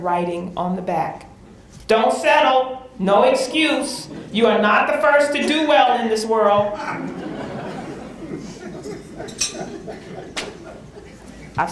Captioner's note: laughter